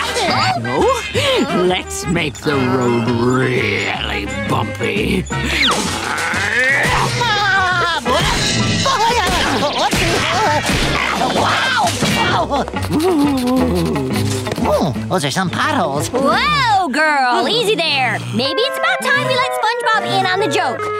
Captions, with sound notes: Now let's make the road really bumpy. [laughing] [screaming] [groaning] Hmm, those are some potholes. Whoa girl, easy there. Maybe it's about time you let SpongeBob in on the joke.